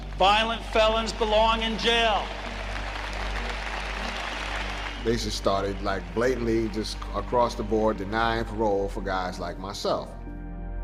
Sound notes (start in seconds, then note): 3.1 audience applauding; 10.6 somber music